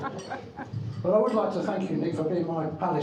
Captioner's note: crowd laughing